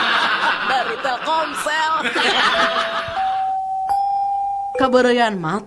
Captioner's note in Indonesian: tertawa